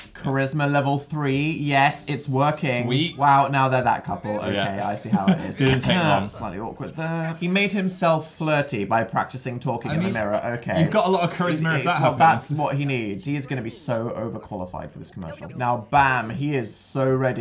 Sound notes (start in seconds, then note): 6.1 clears throat; 6.5 quietly